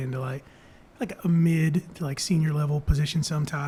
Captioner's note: none